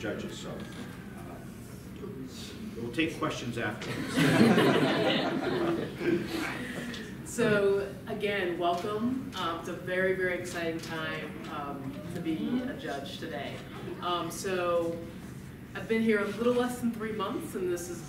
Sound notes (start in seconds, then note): 6.4 laughter